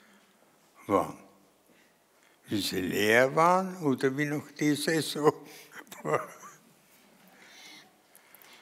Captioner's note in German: lacht